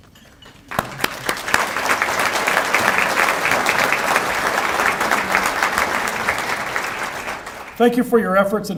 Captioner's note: applause